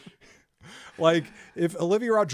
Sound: laughs

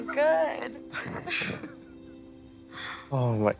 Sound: both laugh in unison

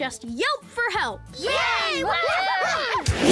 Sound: cheering

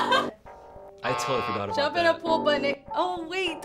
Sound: laughs; buzzer rings

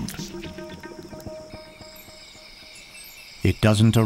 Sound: bat screeches; intense music

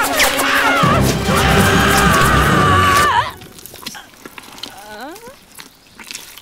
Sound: dramatic music; Lucy and Ben scream

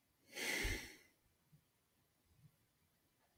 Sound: sighs

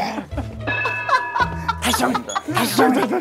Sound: satisfied laughter; falls over laughing

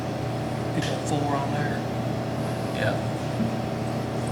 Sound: faintly speaking

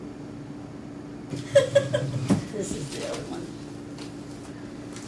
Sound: laughs

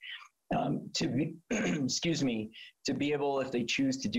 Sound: coughs

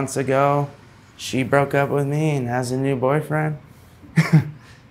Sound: laughing

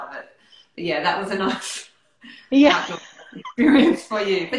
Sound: laughing

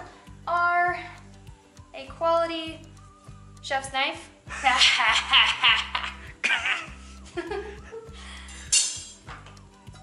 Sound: evil laugh

